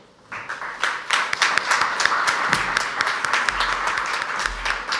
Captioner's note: audience applauds